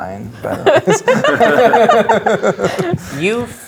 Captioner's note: players laughing